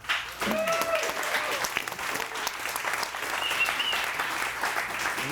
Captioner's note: audience cheering and applauding